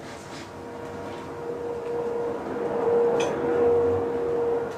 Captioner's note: vacuum cleaner whirring